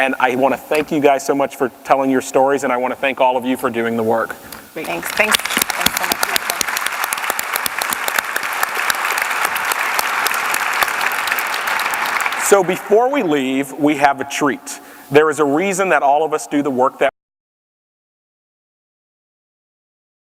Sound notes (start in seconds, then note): 8.3 applause